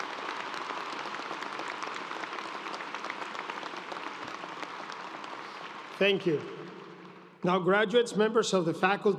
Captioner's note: cheers and applause